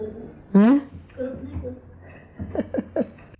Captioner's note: laughing